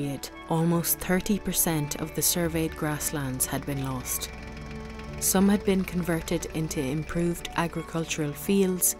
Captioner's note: sound of tractor passing